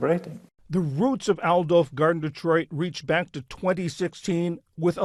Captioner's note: voice-over